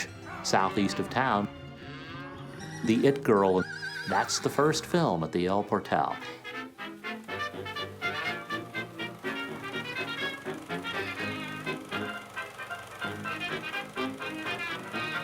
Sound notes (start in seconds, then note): 6.7 old time music; 6.7 projector whirring